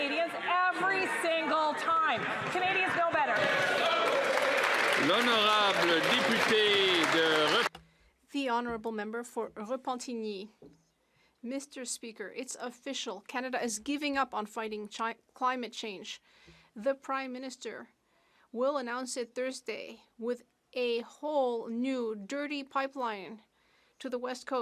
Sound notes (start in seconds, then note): 13.4 speaking French